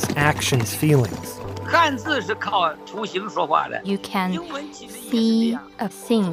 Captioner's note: speaking Mandarin